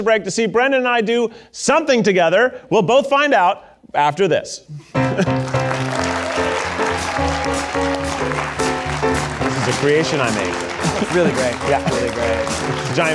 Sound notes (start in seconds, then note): 4.9 upbeat music; 5.0 audience applauding